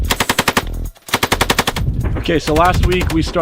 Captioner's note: weapon firing